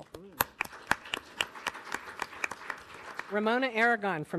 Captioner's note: audience applauding